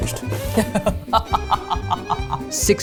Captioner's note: laughs